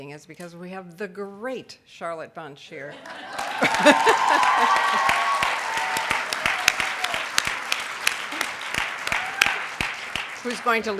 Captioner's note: laughs; audience cheers and claps